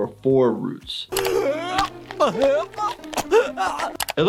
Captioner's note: Nutty gagging